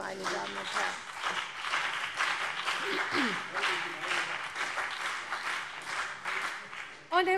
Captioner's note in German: Beifall CDU und BÜNDNIS 90/DIE GRÜNEN